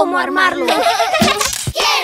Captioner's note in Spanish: Risas